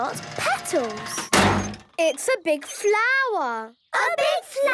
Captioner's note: crane beeping